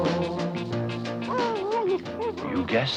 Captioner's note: Arrow barking